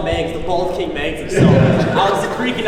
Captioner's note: laughing